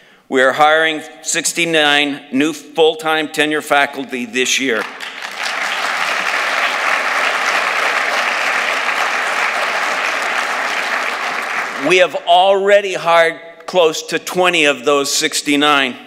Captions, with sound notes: We are hiring 69 new full-time tenure faculty this year. [ Applause ] We have already hired close to 20 of those 69,